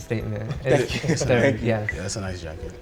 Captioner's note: guys murmuring